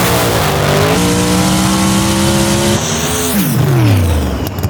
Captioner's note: cars zooming and fizzing; engine buzzing; cars zooming